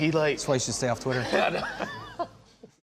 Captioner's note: laughter